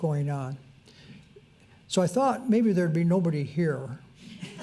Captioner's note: crowd laughs